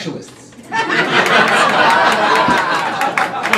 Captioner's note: crowd laughing